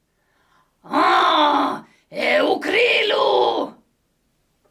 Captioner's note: alien sounds